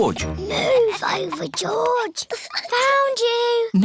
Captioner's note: whispers